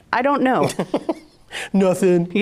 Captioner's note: laughs